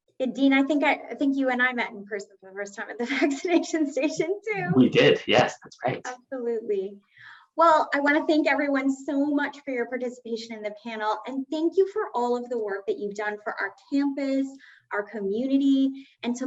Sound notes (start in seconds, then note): 4.0 giggling